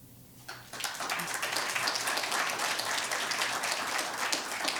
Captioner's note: audience applauding